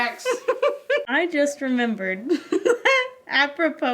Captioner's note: laughs